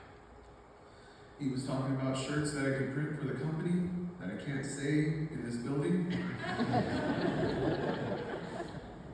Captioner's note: laughter